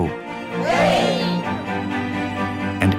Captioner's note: cheering